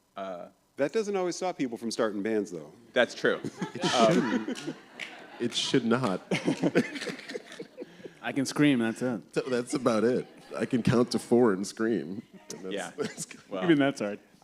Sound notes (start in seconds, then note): 7.1 laughter; 12.6 laughs